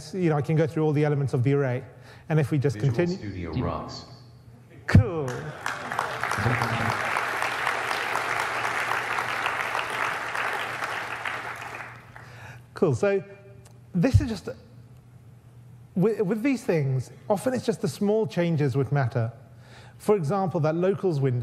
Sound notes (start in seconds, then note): 5.2 audience applauds